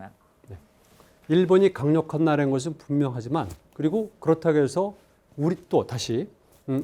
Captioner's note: speaking in Korean